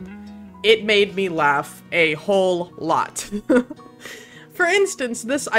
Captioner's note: giggles